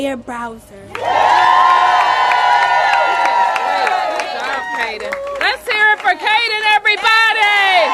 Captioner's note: applause